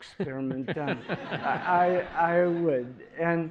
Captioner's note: laughter